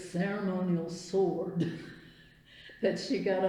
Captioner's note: laughs